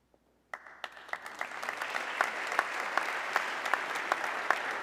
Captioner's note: audience clapping